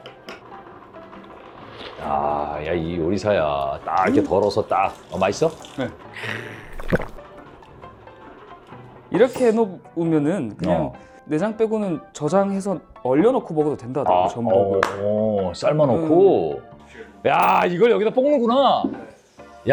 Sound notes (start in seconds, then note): 1.6 slurp; 6.1 gulp